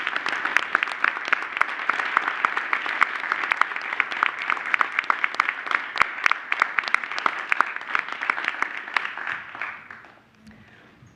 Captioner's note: applause